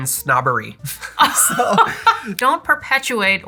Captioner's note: laughter